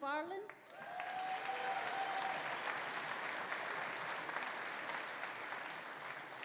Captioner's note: audience applauding; audience cheering